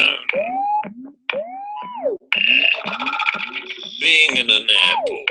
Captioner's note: electronic noises